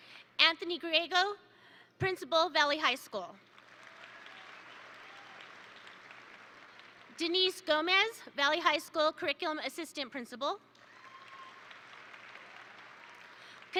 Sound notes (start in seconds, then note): 3.5 attendees applaud; 10.8 attendees applaud